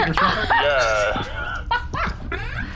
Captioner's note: laughter